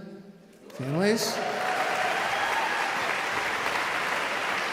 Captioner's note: audience cheering